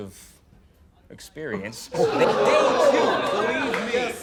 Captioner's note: crowd